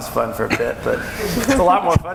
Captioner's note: laughing